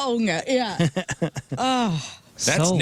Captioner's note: laughing